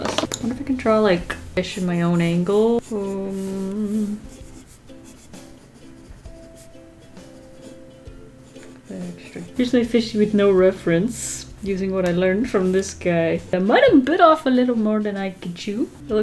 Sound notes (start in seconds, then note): 2.4 hums